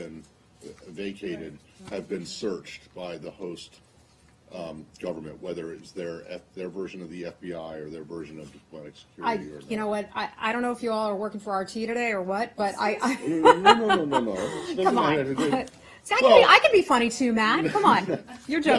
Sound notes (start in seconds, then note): 13.0 laughter